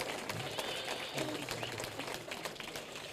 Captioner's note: applause